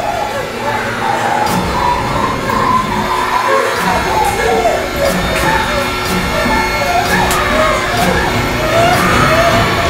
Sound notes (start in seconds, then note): 1.6 metallic banging